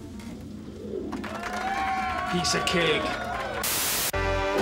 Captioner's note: <i> cheering</i>